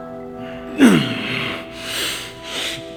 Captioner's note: grunts in pain